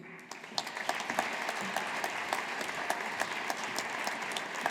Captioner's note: audience applauding